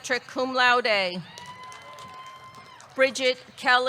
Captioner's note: audience cheering; audience clapping